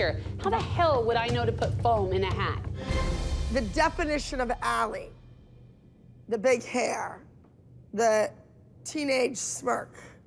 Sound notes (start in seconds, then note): none